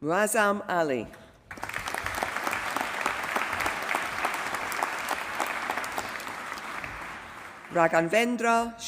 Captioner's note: applause